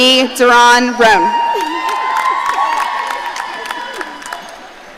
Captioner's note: audience cheering